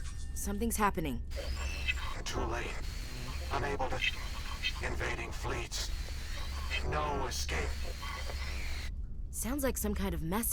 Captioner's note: static